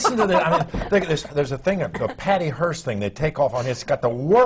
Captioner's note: laughter